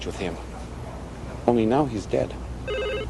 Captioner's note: Телефонни пръстени